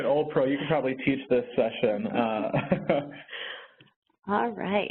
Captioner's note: laughs